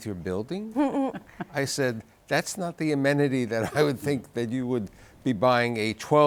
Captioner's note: chuckles